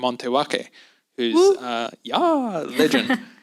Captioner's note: woo